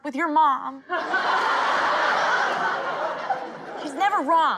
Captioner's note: crowd laughing